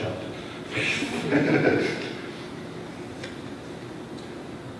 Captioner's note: laughter